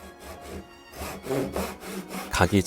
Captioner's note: sawing sound